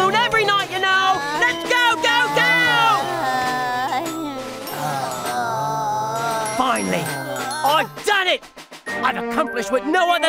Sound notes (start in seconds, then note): 3.8 groaning